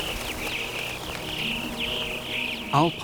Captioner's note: birds twittering